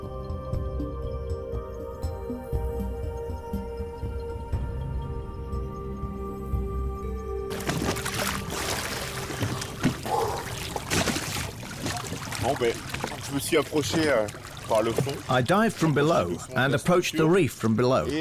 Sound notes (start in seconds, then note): 12.1 speaking French